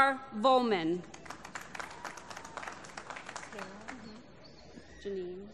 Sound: applause

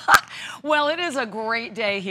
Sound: laughter

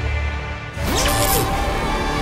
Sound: whirring sound

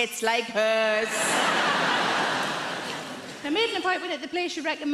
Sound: audience laughs

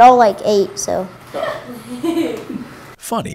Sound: laughing

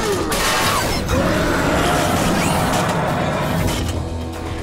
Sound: clanking; roaring

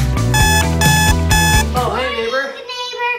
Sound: beeping

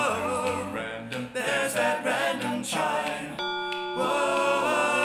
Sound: chime

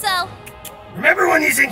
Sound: Priestess Clicking Noises

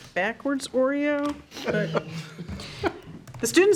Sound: trustees chuckling

